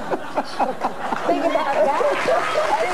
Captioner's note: laughs; audience laughs